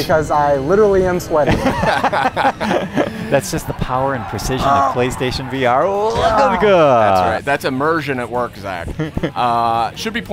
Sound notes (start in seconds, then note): 1.4 laughter